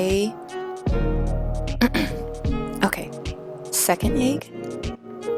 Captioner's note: clears throat